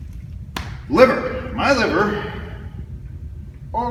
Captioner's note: smack